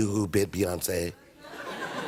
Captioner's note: laughter